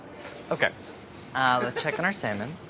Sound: cameraman giggles

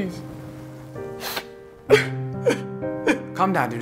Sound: antwon crying

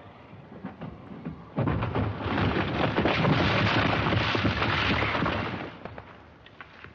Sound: rumbling and crashing of the boulder

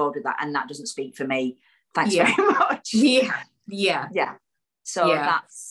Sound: laughs

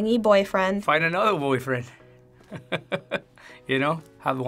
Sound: chuckles

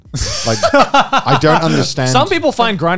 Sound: chuckling

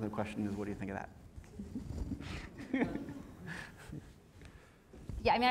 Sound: laugh

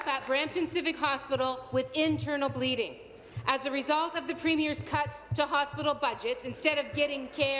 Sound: applause

